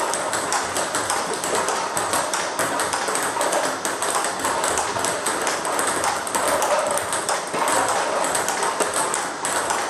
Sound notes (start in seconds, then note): 4.6 ball ping pong hitting continues